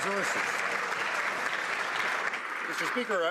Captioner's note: some Applause